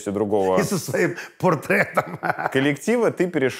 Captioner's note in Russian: смеется